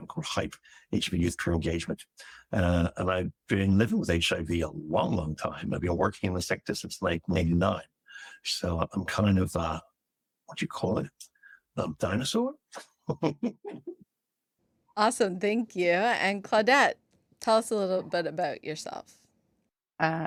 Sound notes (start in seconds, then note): 12.7 laughs